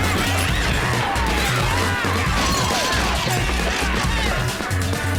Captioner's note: aggressive yelling